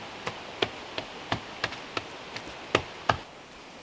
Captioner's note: patting